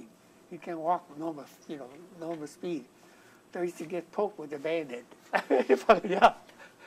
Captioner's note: laughter